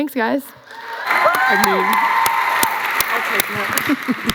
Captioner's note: applause